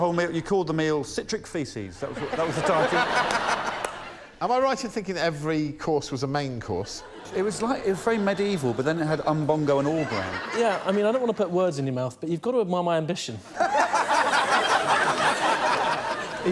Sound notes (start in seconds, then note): 13.5 laughter